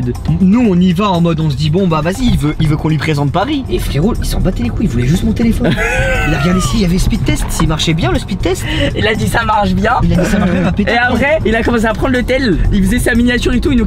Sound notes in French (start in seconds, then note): 5.7 rire